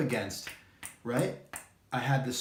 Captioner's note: knuckles knocking